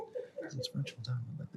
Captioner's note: beeping